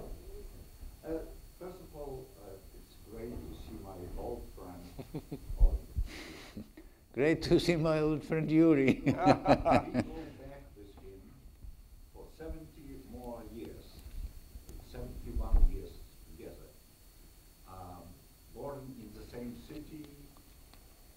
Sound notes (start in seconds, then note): 4.8 chuckles; 8.8 laughs